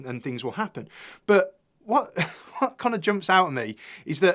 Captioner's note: laughs